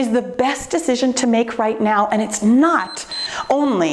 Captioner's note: timer beeps